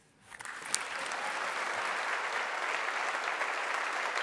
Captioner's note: audience applauding